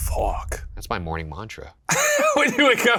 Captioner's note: Shane laughs